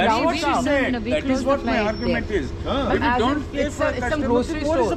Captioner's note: chatter continues